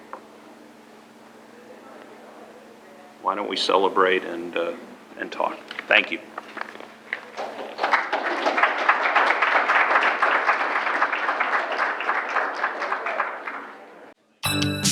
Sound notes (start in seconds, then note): 7.2 applause; 14.4 closing music